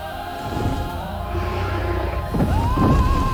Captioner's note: heavy impact